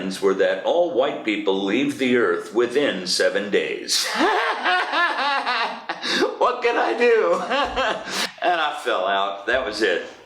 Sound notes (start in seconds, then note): 4.0 sustained laughter; 7.7 laughs